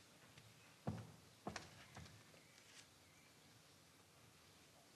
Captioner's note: footsteps thudding